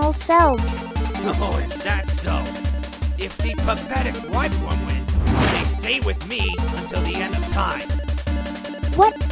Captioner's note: schemingly laughs